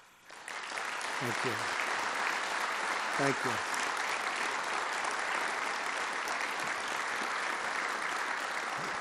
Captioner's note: applause